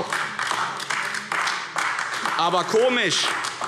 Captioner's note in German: Beifall AfD